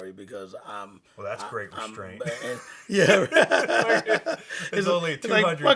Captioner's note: laughs